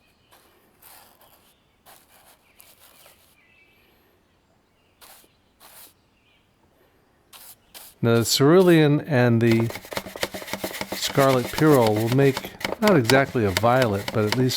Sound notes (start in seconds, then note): 1.8 bristles softly scratching